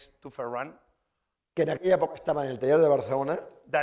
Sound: speaking spanish

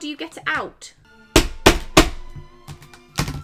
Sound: loud banging

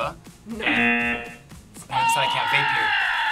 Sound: buzzer shouts; buzzer sounds

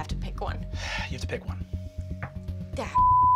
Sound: sighs; beep

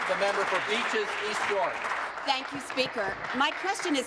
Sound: applause

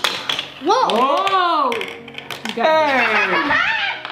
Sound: cheering

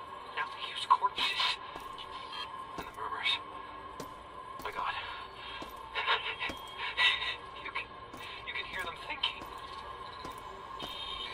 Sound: footsteps

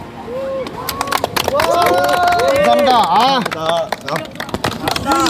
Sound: people applauding and shouting

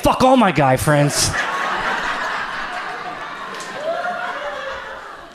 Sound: audience laughs

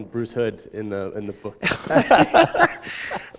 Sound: laughter

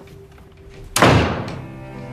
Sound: door closing

